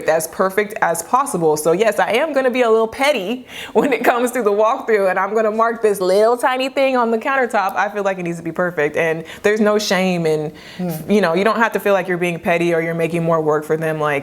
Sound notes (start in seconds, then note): 3.3 chuckles